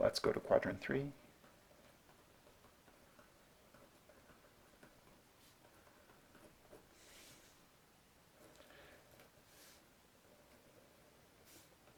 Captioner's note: writing